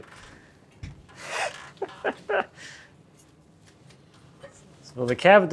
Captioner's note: laughing